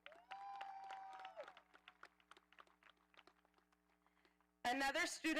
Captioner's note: audience applauding